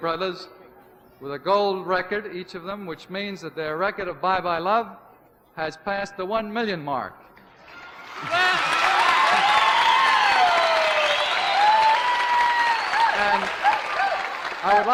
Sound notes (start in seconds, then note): 7.6 cheers and applause